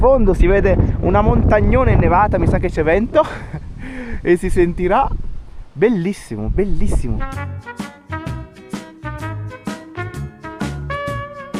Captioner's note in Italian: risate